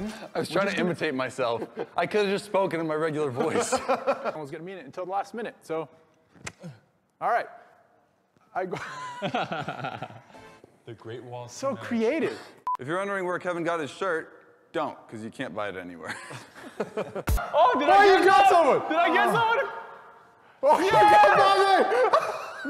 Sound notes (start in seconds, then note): 6.6 clicks mouth